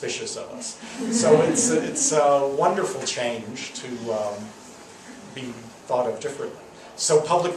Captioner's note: laughs